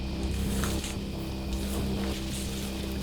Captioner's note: rustling